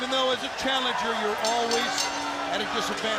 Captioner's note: bell ringing